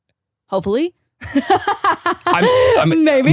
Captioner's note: laughs